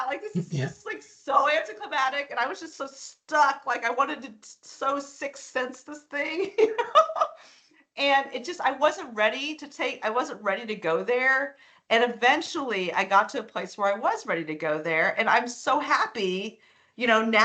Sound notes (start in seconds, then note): 0.3 chuckling; 6.4 laughing